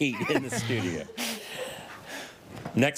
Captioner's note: all laugh